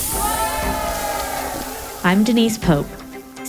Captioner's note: crowd cheering